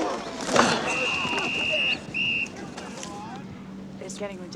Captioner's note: whistle blows